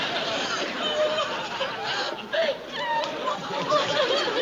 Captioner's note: sobbing